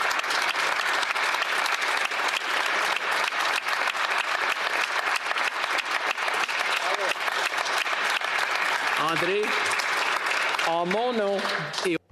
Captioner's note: applause